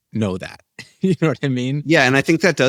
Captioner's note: laughs